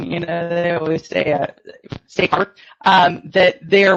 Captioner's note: audio distortion